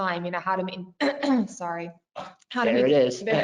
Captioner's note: clears throat